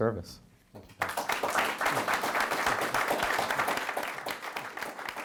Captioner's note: audience clapping